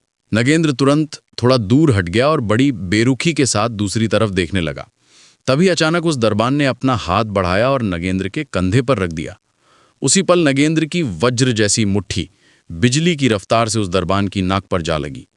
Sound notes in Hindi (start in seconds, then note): 6.0 नाक से की जाने वाली आवाज़